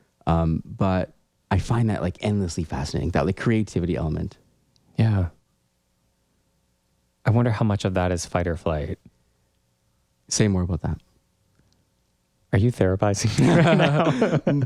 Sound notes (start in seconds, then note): 13.3 laugh